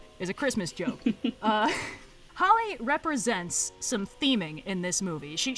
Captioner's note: laughs